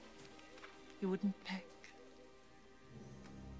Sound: none

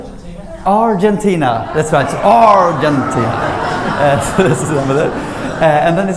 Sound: laughter

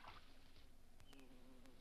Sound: bee buzzes

